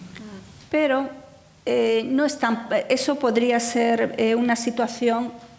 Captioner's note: speaking in foreign language